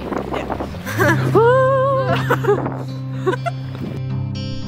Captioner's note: laughing; calm folk music playing